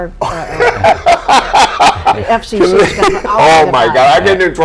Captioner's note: laughs